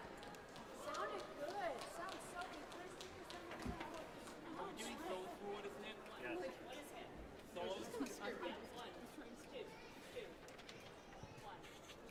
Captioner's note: applause